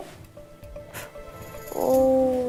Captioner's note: inhale